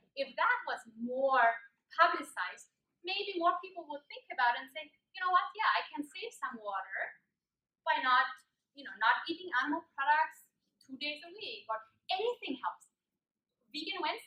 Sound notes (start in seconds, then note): none